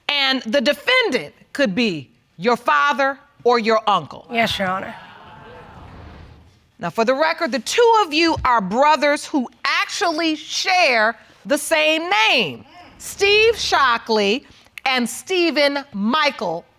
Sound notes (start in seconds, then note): 4.9 audience exclaims